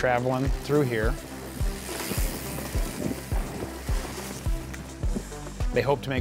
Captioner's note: bikes riding past